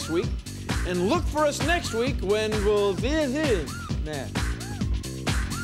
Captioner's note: mumbles